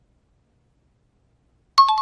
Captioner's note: timer bell rings